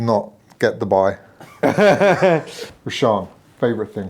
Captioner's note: laughing